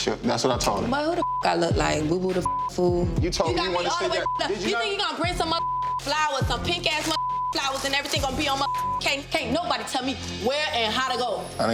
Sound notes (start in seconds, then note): 2.4 beep